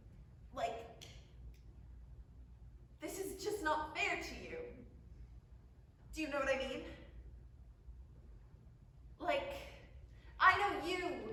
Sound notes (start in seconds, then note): none